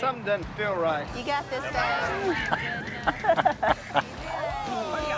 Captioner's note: Si laughs